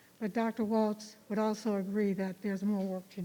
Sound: none

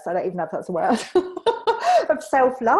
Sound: laughs

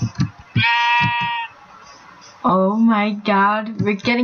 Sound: baa

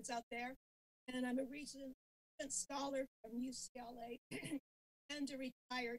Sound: clears throat

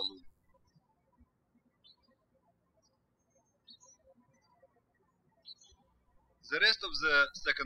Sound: birds chirping

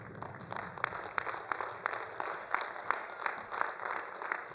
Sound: attendees applauding

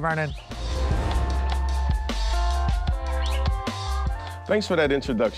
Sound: transition whooshing

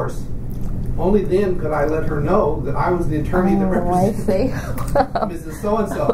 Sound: laughs

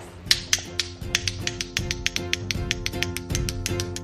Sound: clicking sound

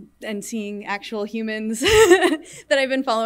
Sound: laughs

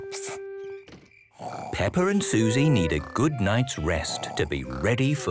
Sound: Peppa and Suzy snoring

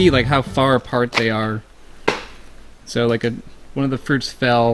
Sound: sound of a fruit falling

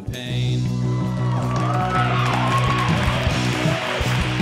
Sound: crowd cheering; pop punk music

